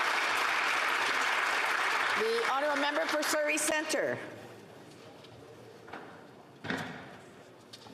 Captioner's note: applause